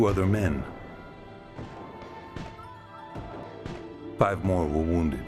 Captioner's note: gunshots